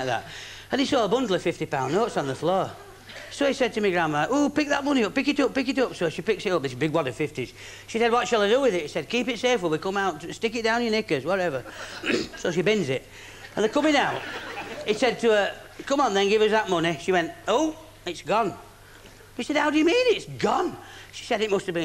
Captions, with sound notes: they were going in like that and he saw a bundle of £50 notes on the floor so he said to me Grandma, "ooh pick that bundle of money up - pick it up. So she picks it up this big wad of 50's said what shall ah do wi'it - he said just keep it safe until we come out, stick it down yer knickers whatever [cough] so she bins it and the're coming out and he says come on then give us that money she went -oop it's gone 'e said how do you mean it's gone !